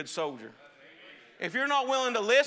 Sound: congregation praising

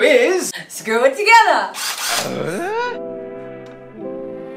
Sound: drill revs; Tim Allen Home improvement grunt

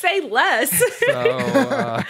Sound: laughs

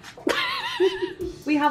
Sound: laughs

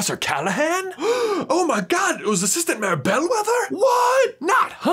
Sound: gasps

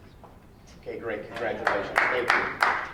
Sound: clapping

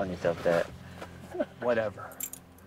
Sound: Chester and Mac laughing

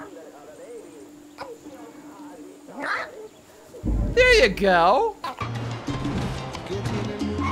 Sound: none

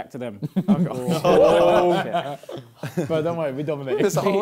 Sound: laughter

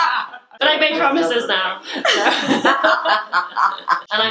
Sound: laughing; laughing

